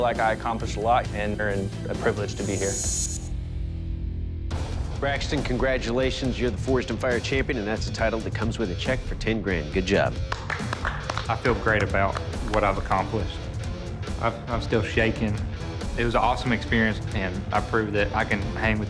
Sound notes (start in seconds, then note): 10.2 applause